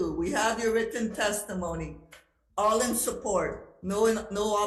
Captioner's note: none